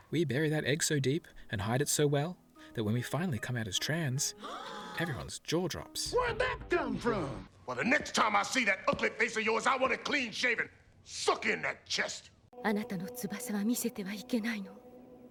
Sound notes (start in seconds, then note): 4.4 gasp!; 12.5 speaks galactic language